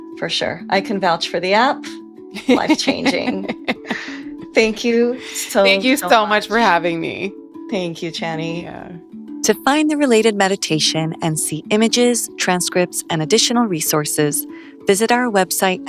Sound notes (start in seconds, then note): 2.4 laughs